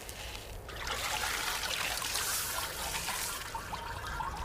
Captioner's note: water splashing